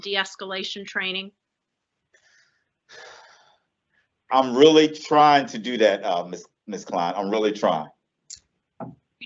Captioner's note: audible sigh